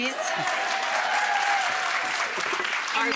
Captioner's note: audience cheering